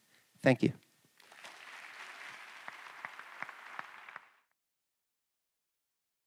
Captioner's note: applause